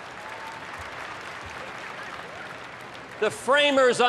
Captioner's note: applause